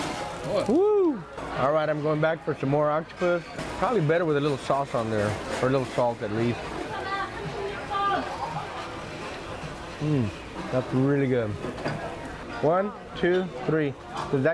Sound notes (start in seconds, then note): 7.4 restaurant chatter